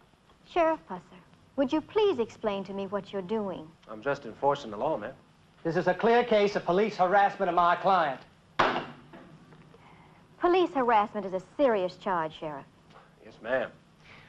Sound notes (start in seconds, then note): 8.6 gavel banging